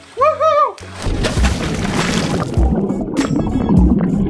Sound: water splashing; exciting retro music

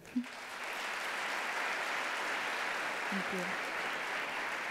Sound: audience applauds

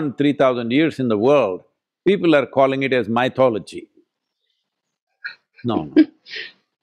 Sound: laughs

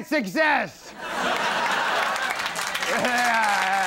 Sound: audience applause

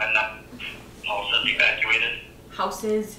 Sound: man on the Radio

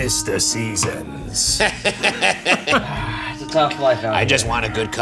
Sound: laughing

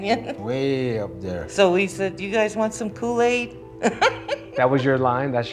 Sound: laughs

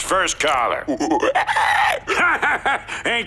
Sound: hooting

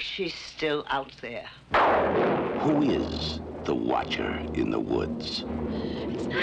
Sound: thunderclap

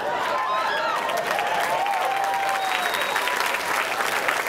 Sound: audience cheering

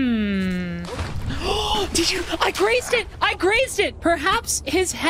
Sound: gasp

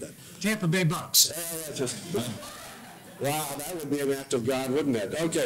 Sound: laugh

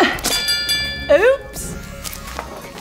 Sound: groaning; bell ringing

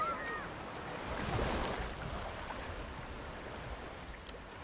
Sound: water rushing

